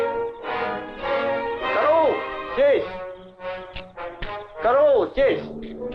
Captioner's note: general speaking in Russian